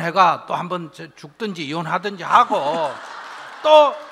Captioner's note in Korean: 청중 웃음